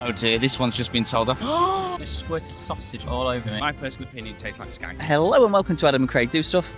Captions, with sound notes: Oh dear, this one's just been told off. [GASP] You squirted sausage all over me. in my personal opinion it tastes like skank Hello and welcome to Adam and Craig Do Stuff.